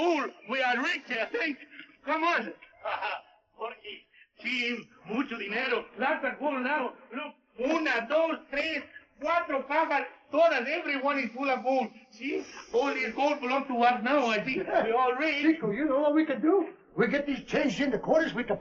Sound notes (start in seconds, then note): 0.0 laughs; 4.1 non-english speech